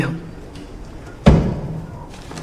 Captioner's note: knock